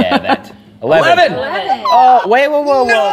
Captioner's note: squeals